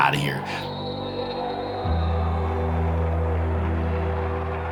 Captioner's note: whistle blowing